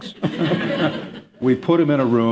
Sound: laughter

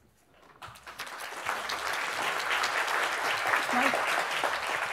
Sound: audience applauding

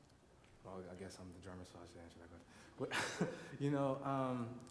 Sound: laughs

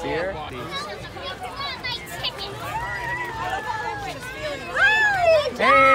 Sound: crowd chattering

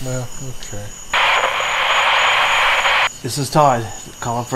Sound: radio crackles

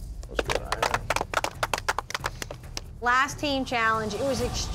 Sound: everybody clapping

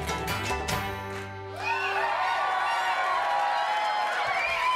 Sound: audience cheering

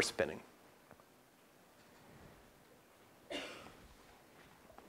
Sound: cough

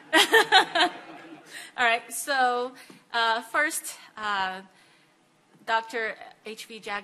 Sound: laughs

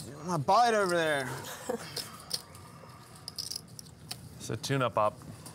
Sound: laughing

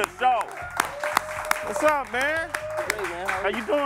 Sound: cheering and applause

